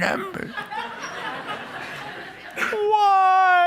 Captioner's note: laughter